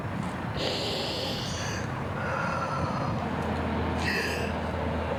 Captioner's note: deep breath